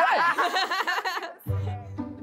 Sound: laughter; instrumental music playing

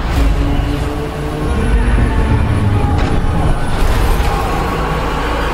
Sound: people yelling

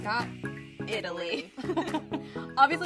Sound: chuckles

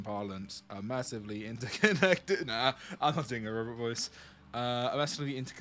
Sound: laughs

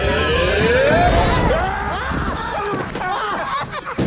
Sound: laughter

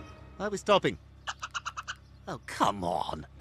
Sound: squirrel chitters

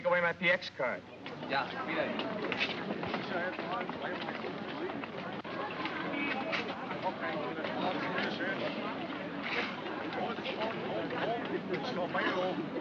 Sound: city street sounds

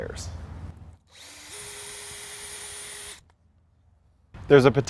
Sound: drill whirring, no additional audio

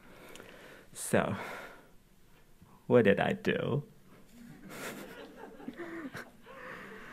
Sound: audience laughing

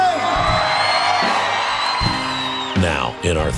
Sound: crowd cheering

